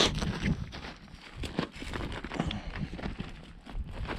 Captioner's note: rocks shuffling